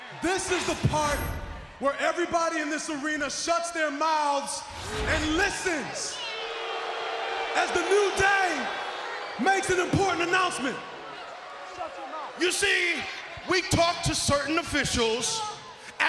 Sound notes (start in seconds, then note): 6.0 audience jeering